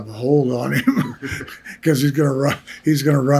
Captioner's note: laughs